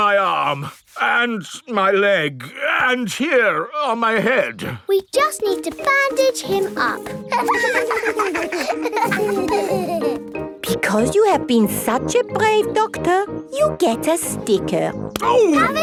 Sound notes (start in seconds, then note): 7.2 laughter